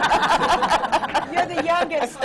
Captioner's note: laughter